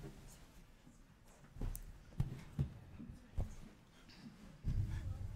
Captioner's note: people chattering faintly